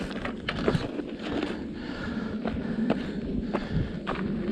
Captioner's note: man panting